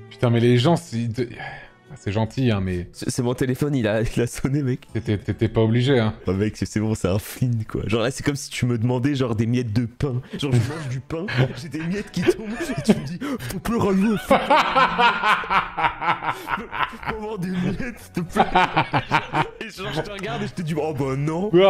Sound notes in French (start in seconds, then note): 11.2 commence à rire; 13.4 voix postillonante; 14.2 rire; 18.3 rire